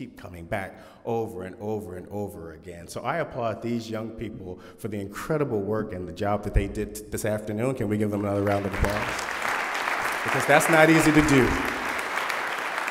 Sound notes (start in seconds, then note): 8.1 applause